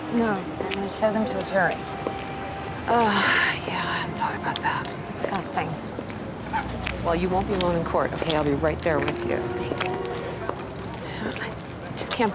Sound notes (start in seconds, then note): 3.0 sighs; 10.9 sighs